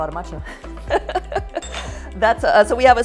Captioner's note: chuckles